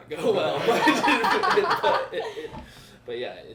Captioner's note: group laughing